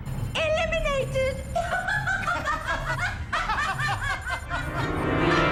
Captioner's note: sinister laughing; menacing organ music